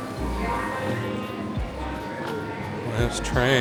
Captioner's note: children chattering